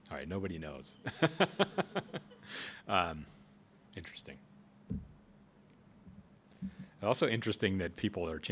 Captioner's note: laughs